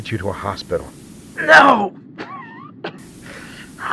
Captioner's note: wheezes